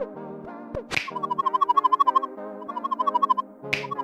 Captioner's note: lighthearted music; warbling sound